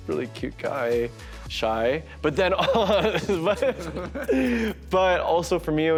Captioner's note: laughs